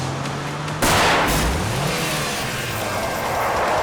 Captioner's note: gunshot